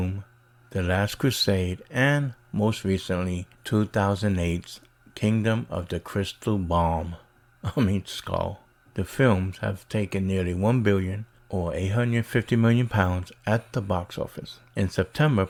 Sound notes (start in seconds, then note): 7.6 chuckles